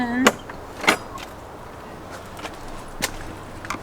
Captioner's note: gate latch opening